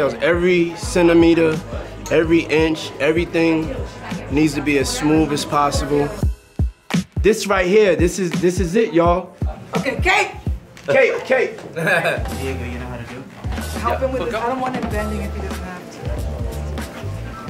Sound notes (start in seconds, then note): 11.7 chuckles